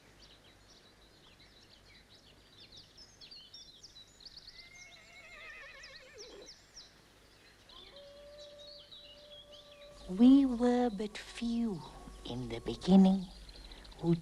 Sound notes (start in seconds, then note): 4.7 horse neighs; 9.0 canine howling